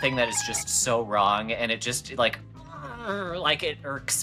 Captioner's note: grumbling noise